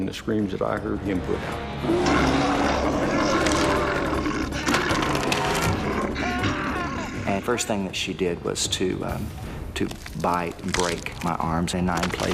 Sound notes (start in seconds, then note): 1.8 bear growling; 3.7 bones crunching; 6.6 screaming